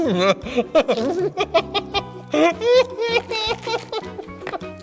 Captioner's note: dies of laughter